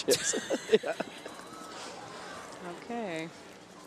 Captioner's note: laughs